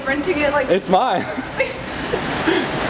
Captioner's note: both laugh